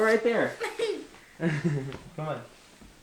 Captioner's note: chuckling